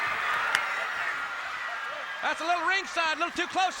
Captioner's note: crowd cheering